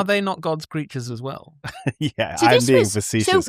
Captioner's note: chuckles; laughter